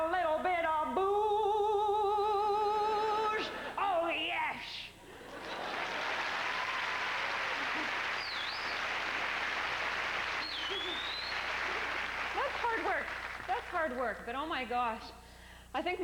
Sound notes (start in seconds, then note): 6.4 applause; 7.9 hoots and cheers